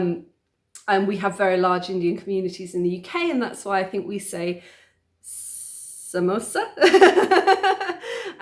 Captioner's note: laughing